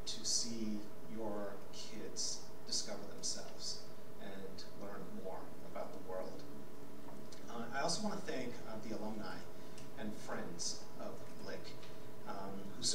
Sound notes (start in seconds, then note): none